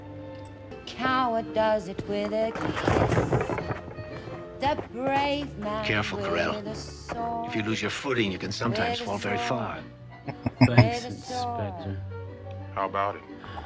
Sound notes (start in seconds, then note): 10.2 chuckling